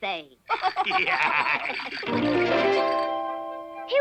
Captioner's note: laughing